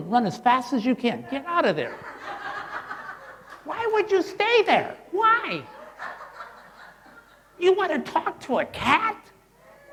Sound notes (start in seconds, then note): 1.8 crowd laughing